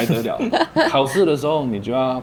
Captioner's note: laughter